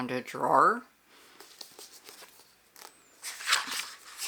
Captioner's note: page flips